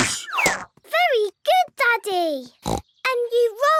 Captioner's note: snorts